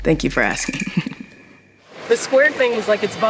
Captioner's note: chuckles